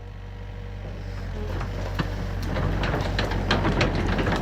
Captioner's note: machine sounds